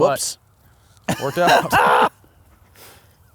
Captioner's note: laughs